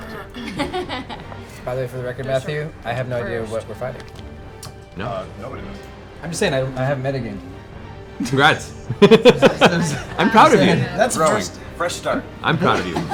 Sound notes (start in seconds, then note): 8.1 laughs